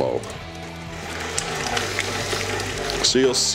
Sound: mixer whirring

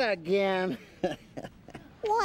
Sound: chuckling

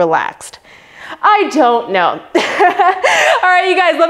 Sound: laughs

